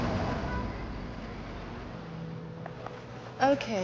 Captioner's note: horns honking